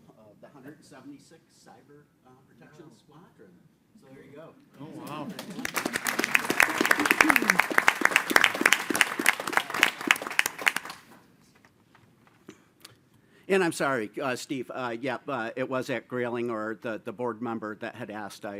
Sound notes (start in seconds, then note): 5.0 audience applauding